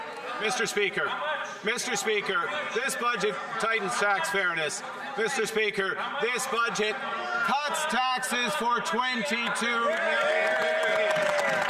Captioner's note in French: voix de l'interprète